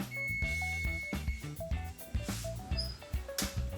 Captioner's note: beeping